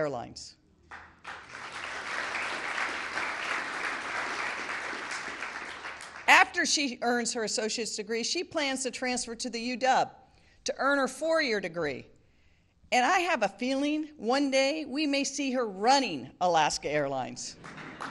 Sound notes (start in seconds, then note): 4.8 applause